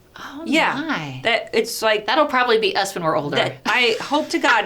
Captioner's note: laughs